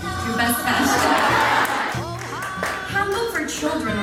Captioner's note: music vocals in Korean language; group applauding